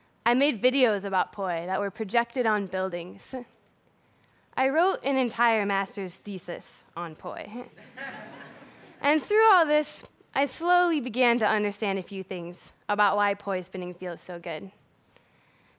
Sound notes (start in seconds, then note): 7.7 laughter